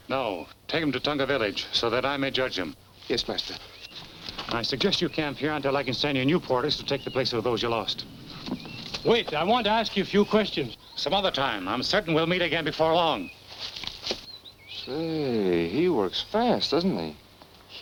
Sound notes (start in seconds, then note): none